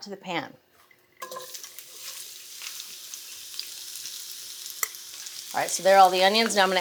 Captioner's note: onions clattering; pan sizzling